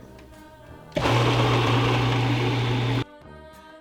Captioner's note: whirrs